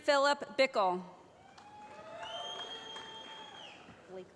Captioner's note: whistling